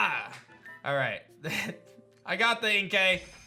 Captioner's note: chuckles